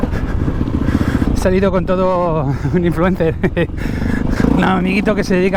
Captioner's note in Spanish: risas